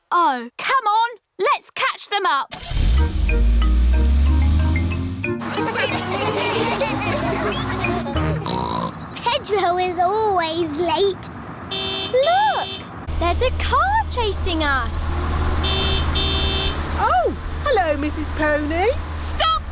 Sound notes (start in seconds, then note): 5.5 laughter; 8.1 snorts; 12.6 horn honks; 15.4 honking continues